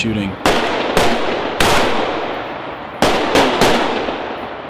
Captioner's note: weapons firing